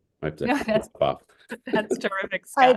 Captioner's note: laugh